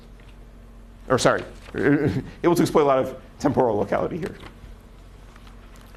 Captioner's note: laugh